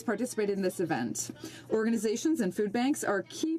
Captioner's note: speaking French